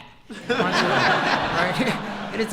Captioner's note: laughter